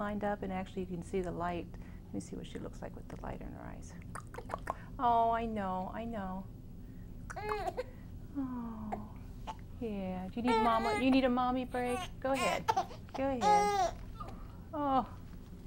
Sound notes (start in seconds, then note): 4.0 tongue clicking sounds; 7.1 baby starts to cry